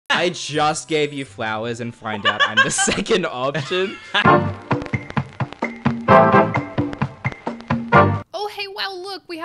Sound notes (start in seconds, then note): 2.2 all laughing; 4.1 uptempo music